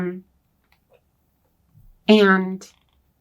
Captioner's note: none